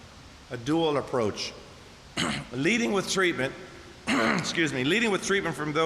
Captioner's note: coughs